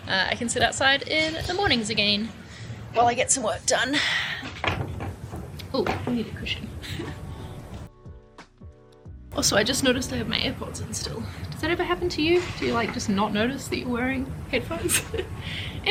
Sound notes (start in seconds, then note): 6.8 chuckles